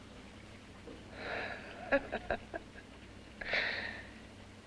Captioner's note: Jan chuckles